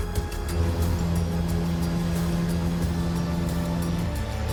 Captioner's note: engines roaring